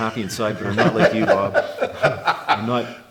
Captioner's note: laughs